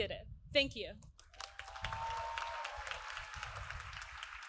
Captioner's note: applause